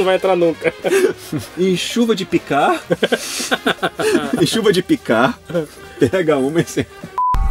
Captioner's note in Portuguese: risos